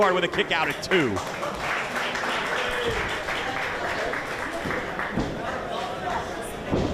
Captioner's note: applause